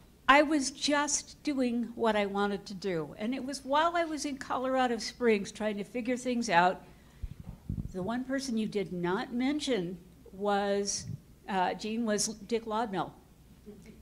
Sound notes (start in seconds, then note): none